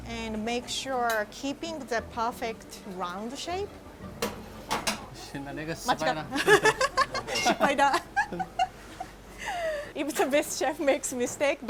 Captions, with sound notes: and make sure keeping the perfect round shape. (speaking in foreign language) (both laughing) Even the best chef makes mistake.